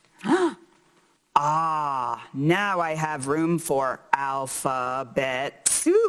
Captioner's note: gasps